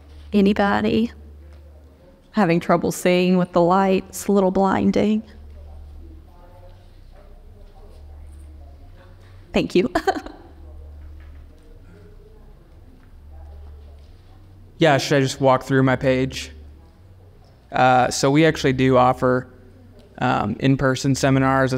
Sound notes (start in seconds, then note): 9.8 chuckles